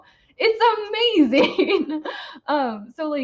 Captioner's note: laughs